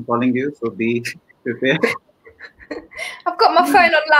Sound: laughs

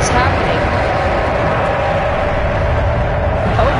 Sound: monster screeching &rumbling

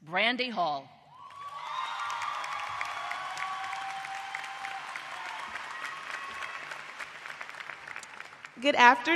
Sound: applause

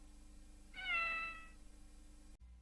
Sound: Mimsie mewing

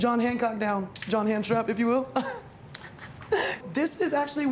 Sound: laughs

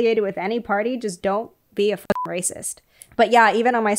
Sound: beep

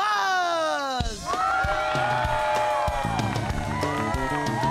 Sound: audience applauding and cheering

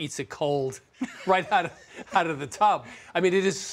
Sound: laughter

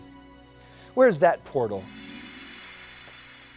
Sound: whirring sound

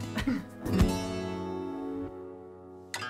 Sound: laughs

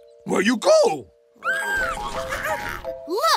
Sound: squealing

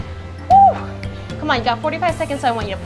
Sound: heaves loudly

